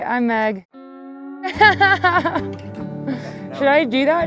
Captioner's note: laughing